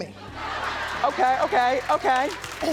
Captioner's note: laughing